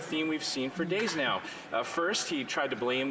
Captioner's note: some Laughter